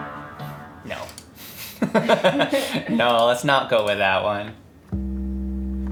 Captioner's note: laughs